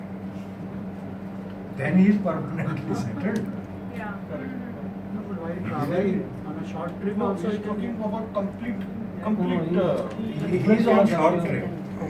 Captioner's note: chuckles